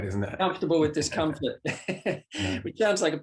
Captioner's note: laughs